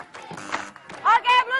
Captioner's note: buzzer rings